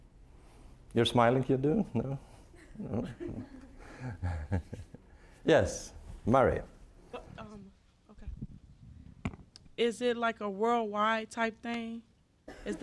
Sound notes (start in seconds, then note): 4.0 scattered laughing